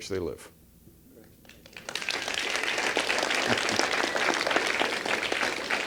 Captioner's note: applause